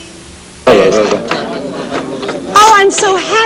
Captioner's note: chattering